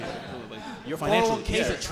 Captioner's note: audience laughing